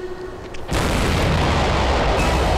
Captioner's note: Explosion